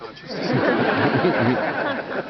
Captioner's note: audience laughter